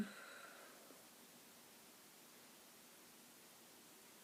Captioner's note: sighs